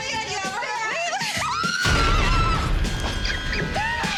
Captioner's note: shrieking